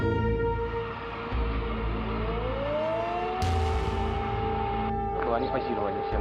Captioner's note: sirens blare; truck rumbles